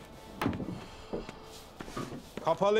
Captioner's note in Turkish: Nefes sesi